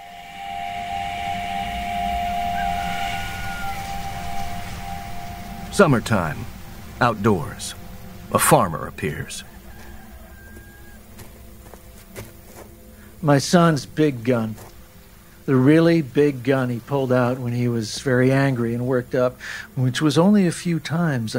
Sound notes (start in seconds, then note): 0.2 dissonant hum; 2.3 distant rooster crowing; 9.8 distant rooster crowing; 11.3 approaching footsteps